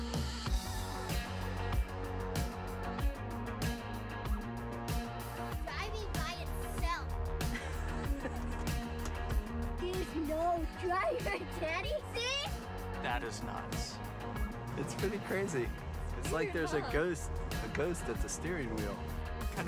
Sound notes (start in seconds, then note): 7.4 laughs